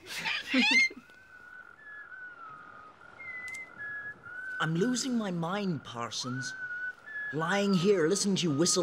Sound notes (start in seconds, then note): 0.4 whistling